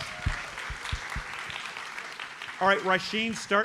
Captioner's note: audience applauds